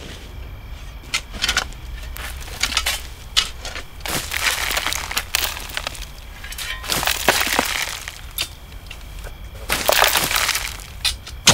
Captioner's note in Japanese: 土をスコップで掘ってかける音